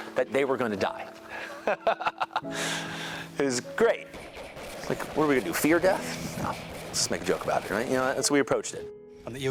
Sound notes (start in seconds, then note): 1.3 laughs; 4.1 automatic weapons chatter